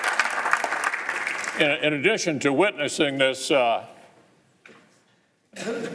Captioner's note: applause